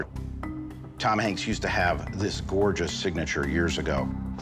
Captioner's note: none